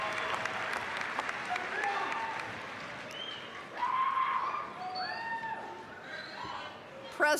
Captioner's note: scattered cheering